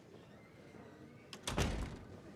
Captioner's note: door closes